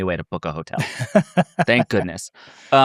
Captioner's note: laughs